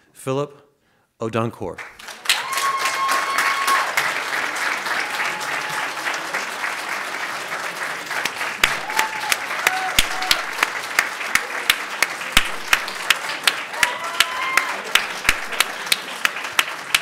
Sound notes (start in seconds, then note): 1.8 audience claps and cheers loudly